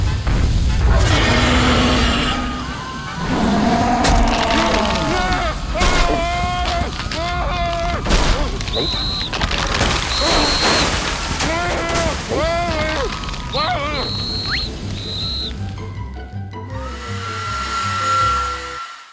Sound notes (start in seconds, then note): 0.9 roars; 1.0 distant screams; 3.1 roars; 4.9 frantic yelling; 8.6 whistle blows; 11.4 groaning; 13.4 blows whistle; 16.8 hair dryer whirring